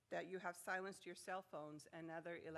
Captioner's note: none